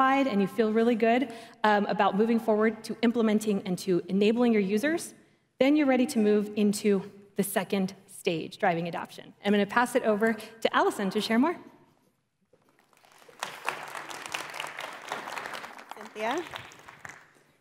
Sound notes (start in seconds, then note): 12.6 applause